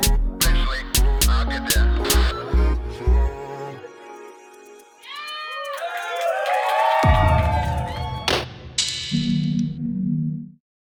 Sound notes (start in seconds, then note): 2.2 electronic hip-hop music continues; 5.0 people cheering; 7.0 ethereal booming; 8.3 loud clanging